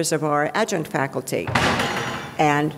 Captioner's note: door slamming